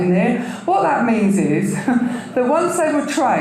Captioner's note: chuckles